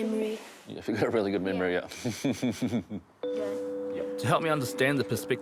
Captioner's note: chuckles